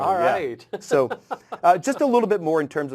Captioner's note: laugh